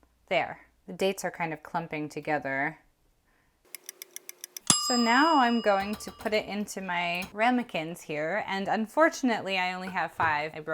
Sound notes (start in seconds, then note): 3.8 clock ticking; 4.4 timer dings